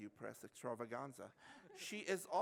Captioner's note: laughter